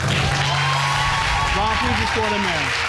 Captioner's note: audience cheering